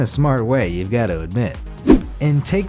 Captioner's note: air whooshes